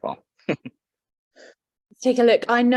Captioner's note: chuckles